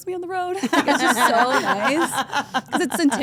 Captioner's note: laugh